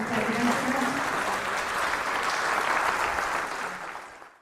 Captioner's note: applause